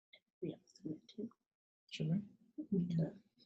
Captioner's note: murmuring